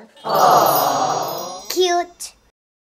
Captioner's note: crowd